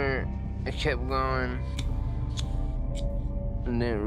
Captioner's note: lighter clicking